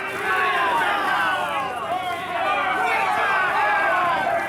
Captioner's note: crowd yelling